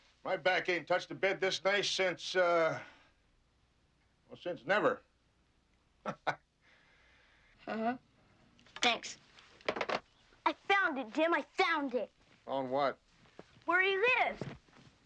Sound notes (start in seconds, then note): 6.0 laughs